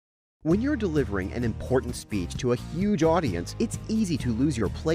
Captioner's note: voice-over